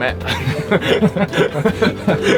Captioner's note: both laugh